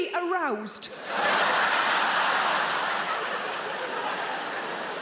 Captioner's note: audience laughing